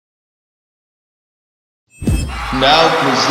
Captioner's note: crowd cheering/applause